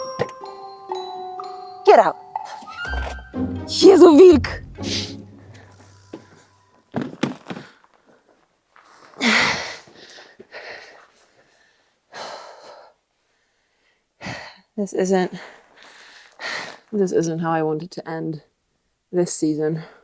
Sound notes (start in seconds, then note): 0.0 playful orchestral music; 3.8 speaking in foreign language; 6.9 stool clattering; 9.3 grunting in exertion